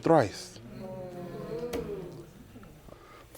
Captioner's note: all agreeing